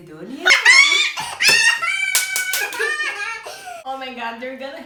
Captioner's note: clapping hands